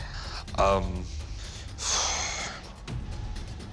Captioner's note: exhales